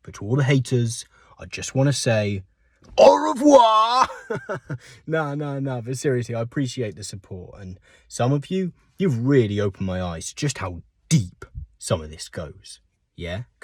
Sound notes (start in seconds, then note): 4.0 laughter